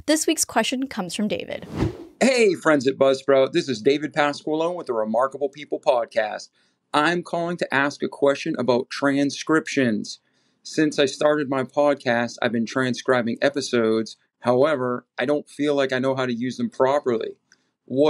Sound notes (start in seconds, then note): 1.6 air whooshing